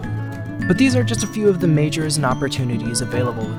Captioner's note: male Voice